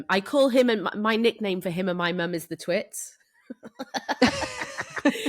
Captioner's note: laughs